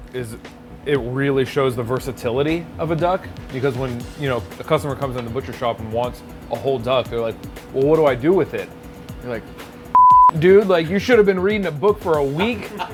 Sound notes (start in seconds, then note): 9.9 beep; 12.3 laughter